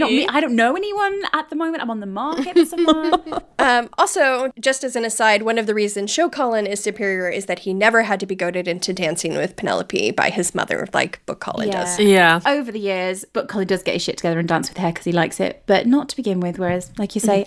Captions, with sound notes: - "I don't know anyone at the moment. "I'm on the market for someone." (laughing) - Also, just as an aside, one of the reasons Show Colin is superior is that he never had to be goaded into dancing with Penelope by his mother of like Book Colin does. - Yeah. - Over the years, but Colin does get his shit together and dances with her because he likes it, but not to begin with, whereas, like you say,